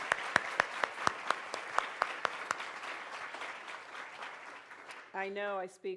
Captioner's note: applause